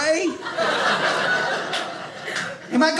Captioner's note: audience laughing